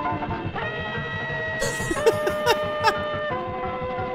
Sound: laughs

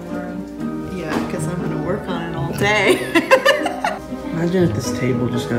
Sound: laughs

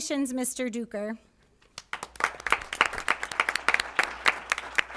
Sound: applause

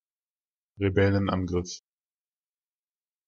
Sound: fast Pronunciation

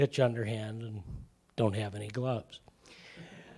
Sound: laughter

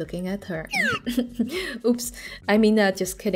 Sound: cough

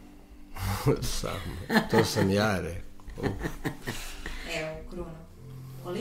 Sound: laughter

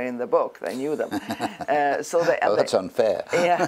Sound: laugh

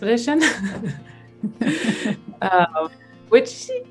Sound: both laugh

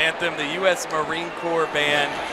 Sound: cheering

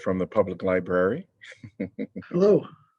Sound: laughter

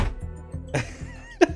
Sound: laughs

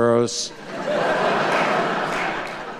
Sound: laughter

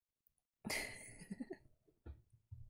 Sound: laughs

